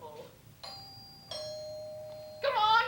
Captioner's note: doorbell